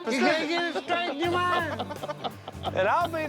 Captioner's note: laughing continues